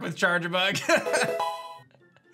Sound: laughs

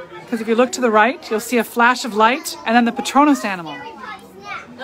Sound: none

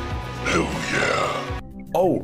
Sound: demonic voice

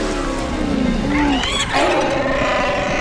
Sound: wookiee call

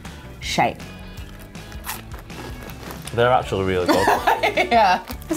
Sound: munches; laughs

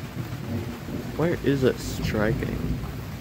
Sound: distant thunder rumbles

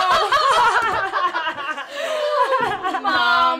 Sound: hysterical laughter

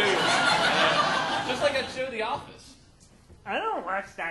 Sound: audience laughing

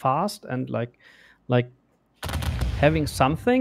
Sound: volley of booming sounds

